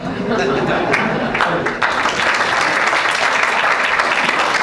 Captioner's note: laughter, clapping